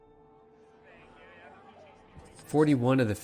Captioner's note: crowd chatter